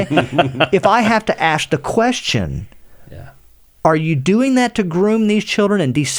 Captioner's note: laughter